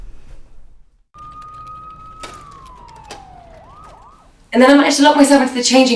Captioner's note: police sirens blare